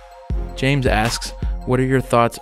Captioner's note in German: Voice-over